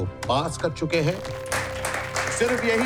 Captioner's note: applauses